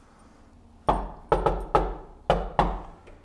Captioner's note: knock, knock